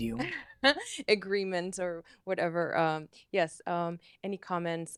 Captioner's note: laughter